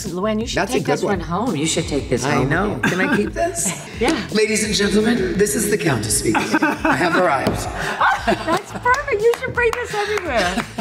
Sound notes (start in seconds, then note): 6.3 Kelly and Dorinda laughing